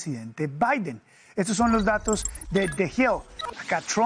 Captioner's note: HABLA EN INGLéS